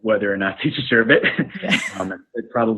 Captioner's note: laughs